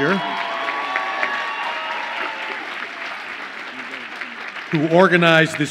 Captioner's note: audience applauds and cheers